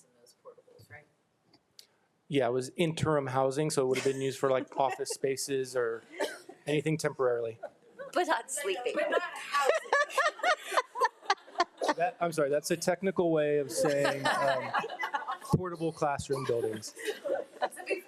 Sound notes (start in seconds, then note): 10.5 board laughs